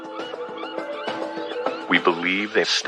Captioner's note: seagulls squawking